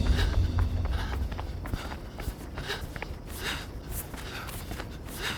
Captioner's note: Brandy breathing heavily